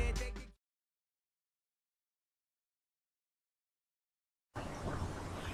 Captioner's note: silence